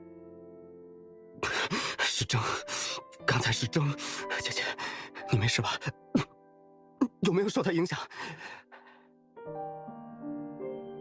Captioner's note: cough